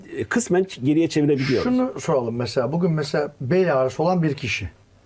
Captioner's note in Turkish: homurdanır